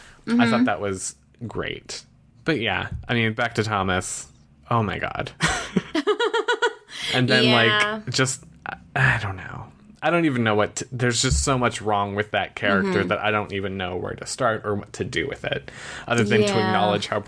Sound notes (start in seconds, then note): 6.2 laughs; 6.9 sighs